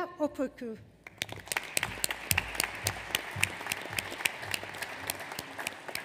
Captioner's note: audience applauds